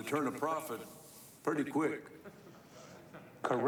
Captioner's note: laughter